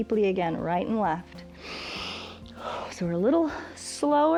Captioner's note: inhales and exhales